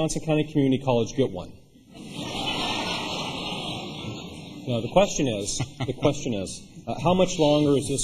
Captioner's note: laughter